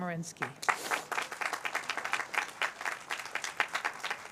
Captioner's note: applause